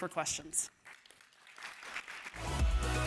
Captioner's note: applause